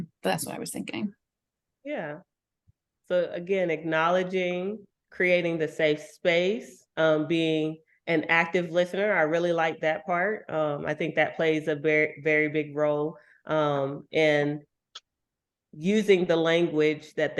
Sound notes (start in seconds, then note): none